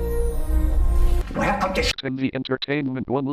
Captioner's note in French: parlant un anglais clair; au téléphone